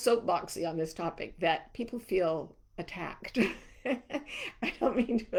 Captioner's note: chuckling